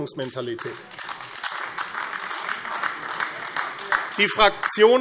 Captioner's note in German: Beifall AfD